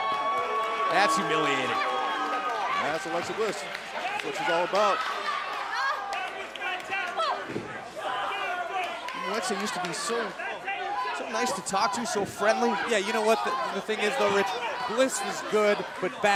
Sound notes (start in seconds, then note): 1.3 cheers & applause